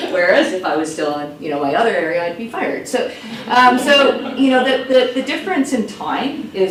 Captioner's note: laughs